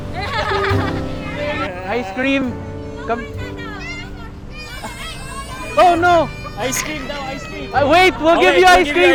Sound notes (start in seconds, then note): 0.0 laughs; 4.5 cries